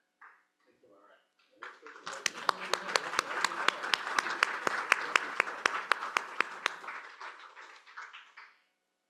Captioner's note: applause